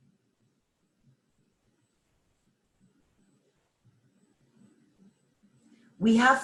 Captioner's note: silence